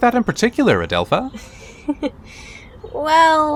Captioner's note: Adelpha chuckles